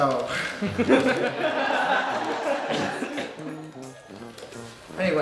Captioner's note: audience laughing